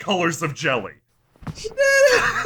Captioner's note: laughter